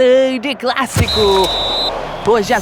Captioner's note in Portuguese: apito